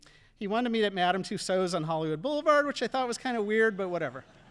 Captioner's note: audience laughing